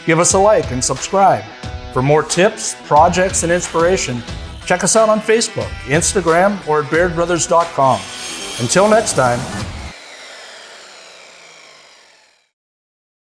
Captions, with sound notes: give us a like and subscribe. For more tips, projects, and inspiration, check us out on Facebook, Instagram, or at bairdbrothers.com. Until next time. (saw whooshing)